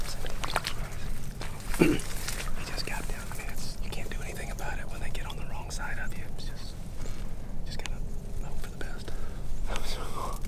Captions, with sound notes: - They just got down (faintly speaking). You can't do anything about it when they get on the wrong side of view. It's just, just gotta hope for the best.